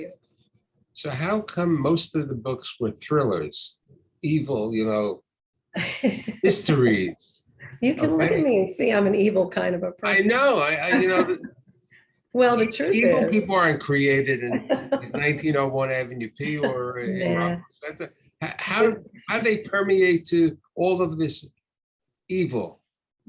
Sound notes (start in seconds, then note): 5.8 laughs; 10.1 laughs